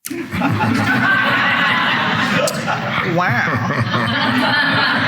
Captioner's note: all laughing